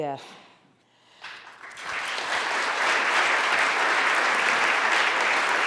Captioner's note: audience applauding